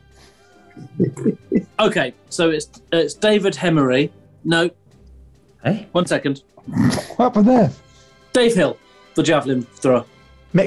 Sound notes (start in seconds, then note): 0.3 chuckling; 6.5 sniggering